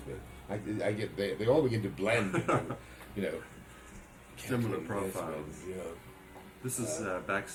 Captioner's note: laughter